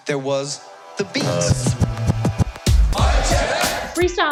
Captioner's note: beatboxing